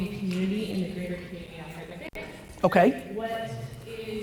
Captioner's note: audio distorts